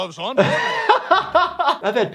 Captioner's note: laughing